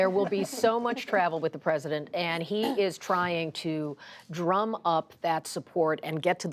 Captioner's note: laughter